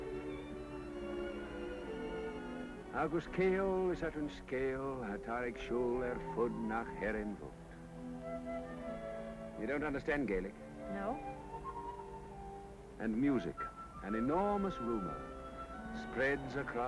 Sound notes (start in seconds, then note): 3.4 reciting a poem in Gaelic